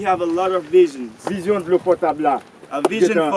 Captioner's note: speaking in foreign language